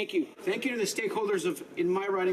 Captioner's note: speaking French